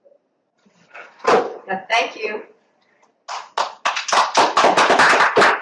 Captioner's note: applause